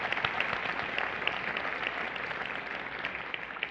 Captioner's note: applause